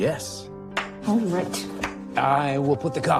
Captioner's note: claps